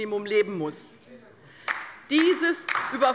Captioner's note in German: Beifall bei der LINKEN